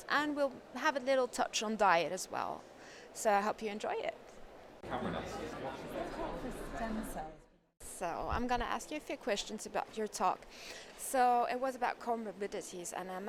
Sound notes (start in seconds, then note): 4.8 crowd murmuring